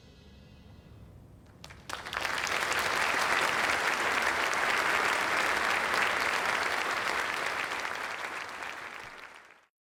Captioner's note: applause